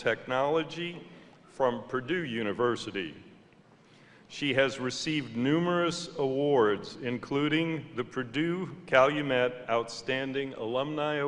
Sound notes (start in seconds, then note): none